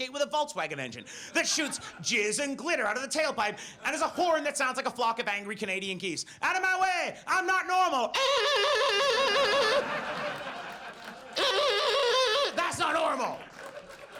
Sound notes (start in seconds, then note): 11.3 imitates geese honking; 11.4 audience laughs